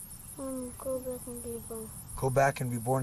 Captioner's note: child mumbling